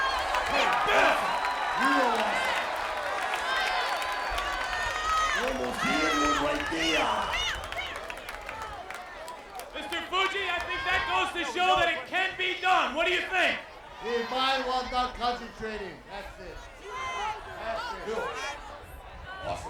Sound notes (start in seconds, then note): 0.0 applause; 9.9 applause